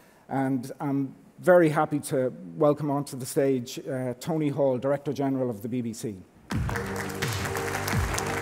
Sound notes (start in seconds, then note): 6.5 applauding; 6.5 offbeat music